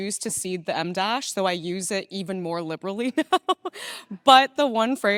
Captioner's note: laughing